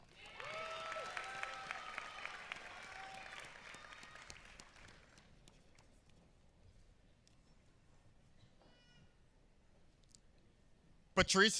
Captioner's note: applause